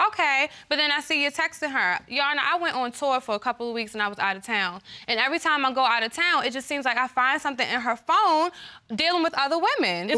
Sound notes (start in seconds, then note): none